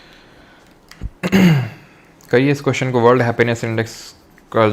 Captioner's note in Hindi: खांसने की आवाज़; गला साफ़ करने की आवाज़